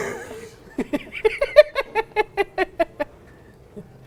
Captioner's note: laughs